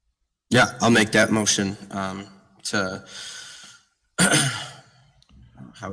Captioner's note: clears throat